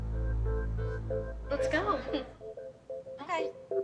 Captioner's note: chuckles